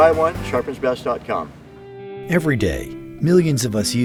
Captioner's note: voiceover